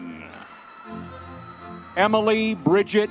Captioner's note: audience members cheering